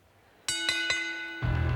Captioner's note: bell dinging